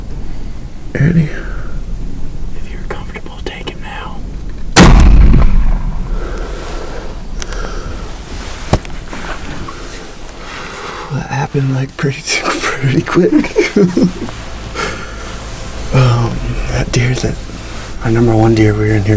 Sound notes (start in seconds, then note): 4.7 sound of gunshot; 7.4 excited breathing